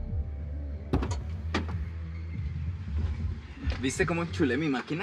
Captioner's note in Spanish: Sonido al abrir la puerta